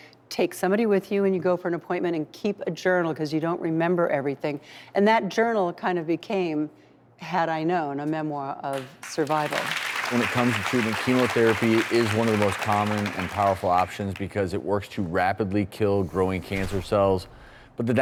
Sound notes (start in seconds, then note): 8.7 audience clapping